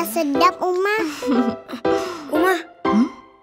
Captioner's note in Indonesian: tertawa senang